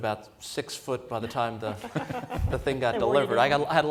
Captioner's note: laughter